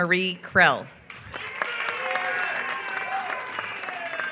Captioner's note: applause